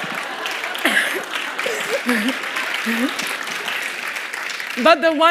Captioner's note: laughter; applause